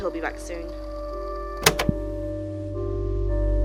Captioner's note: click